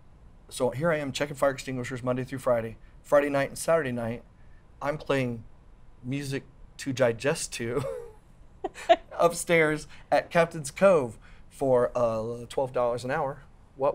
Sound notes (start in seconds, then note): 8.6 laughs